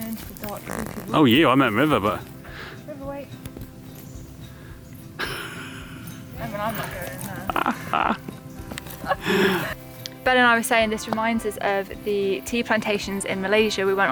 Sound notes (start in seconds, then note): 7.4 laughing